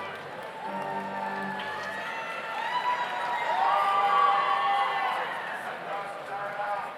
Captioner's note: overlapping chattering; audience cheers